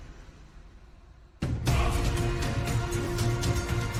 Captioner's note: dramatic Music; chanting